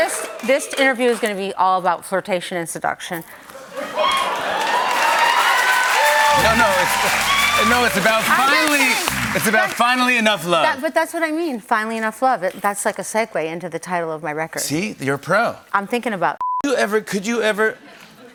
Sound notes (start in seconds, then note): 3.9 cheers and applause